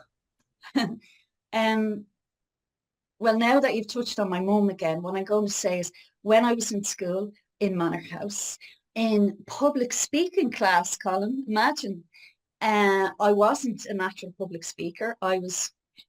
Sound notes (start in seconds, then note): 0.7 laughs